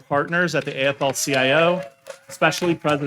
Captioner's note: attendees cheering and applauding